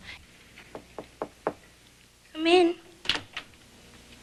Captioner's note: knocking at door